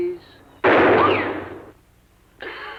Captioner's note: bang